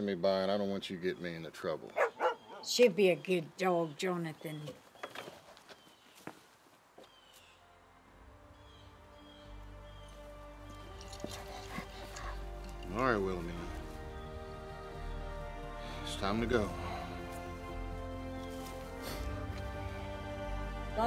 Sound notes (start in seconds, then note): 1.9 Willamina barking; 6.1 birds chirping; 8.6 gentle music; 17.5 gentle music